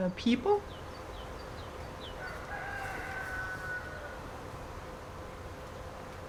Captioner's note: birds chirping and calling